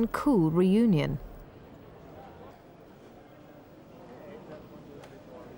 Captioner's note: crowd muttering